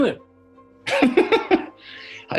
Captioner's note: giggling